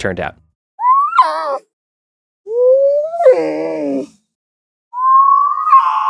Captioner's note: fox cries; melancholy bird call